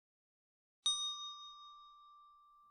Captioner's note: ding